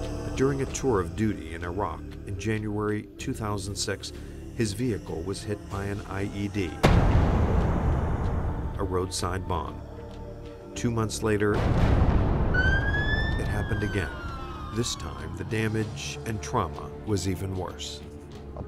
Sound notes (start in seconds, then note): 0.0 dramatic music; 0.0 singer vocalizing; 6.8 bomb booming; 11.6 bomb booming; 12.4 siren wailing